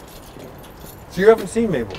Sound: keys jingling

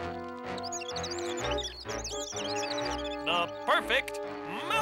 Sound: squeaking

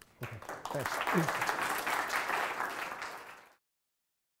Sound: applause

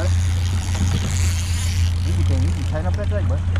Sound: reel spinning

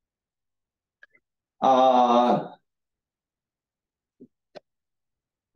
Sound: pause

